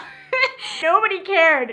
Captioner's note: laughs